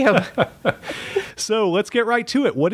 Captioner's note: chuckle